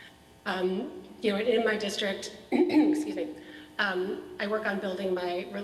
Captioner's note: clears throat